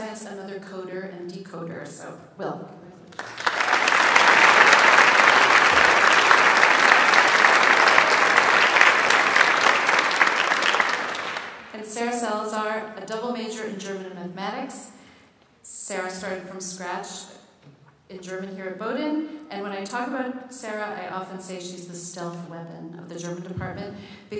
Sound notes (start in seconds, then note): 3.1 audience applauds